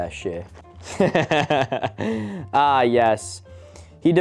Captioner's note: laughing